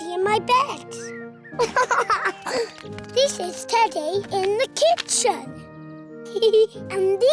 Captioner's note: giggles